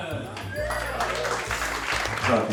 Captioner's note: applause & cheering